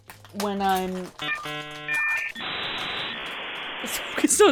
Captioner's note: signal beeping